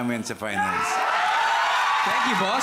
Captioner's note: audience cheering